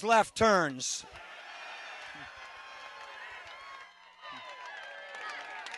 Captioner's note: cheering and applause